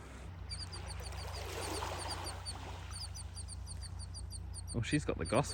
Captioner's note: bird chirping incessantly